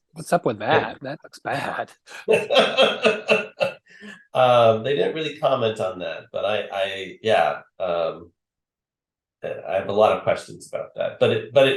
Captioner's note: laughs